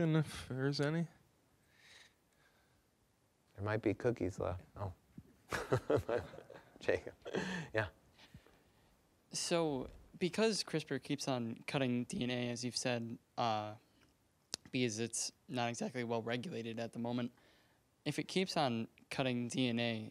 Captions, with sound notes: if there is any? >> There might be cookies left. Oh. (all laughing) Yeah? >> So because CRISPR keeps on cutting DNA, as you've said, because it's not exactly well-regulated at the moment, if it keeps on cutting DNA